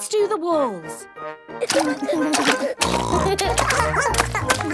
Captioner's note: barking; snorting; giggling